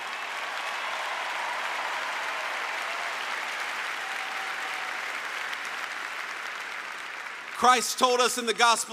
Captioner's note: applause